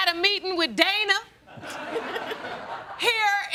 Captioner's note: laughing